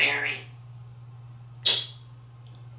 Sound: smacking sound

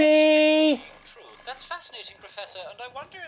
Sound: phone rings

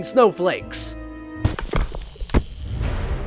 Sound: snowball thudding; upbeat tense music begins

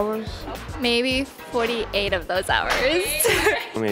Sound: both laughing

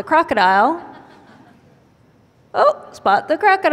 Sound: laugher

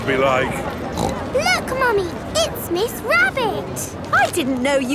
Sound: snorts

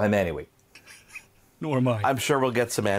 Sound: laughing

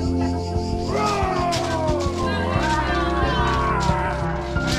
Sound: shouts playfully; feet against beach rocks

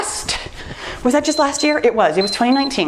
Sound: timer beeps

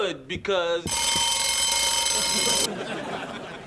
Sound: <i>alarm ringing loudly

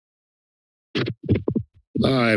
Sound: mic thumps

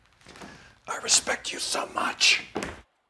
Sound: whispering

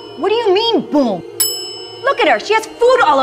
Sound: bell ringing

